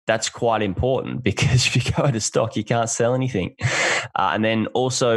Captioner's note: laughs